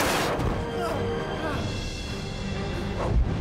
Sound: groans weakly

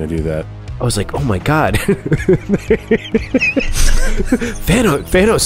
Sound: laughing

